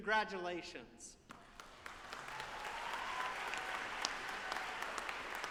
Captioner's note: audience applauding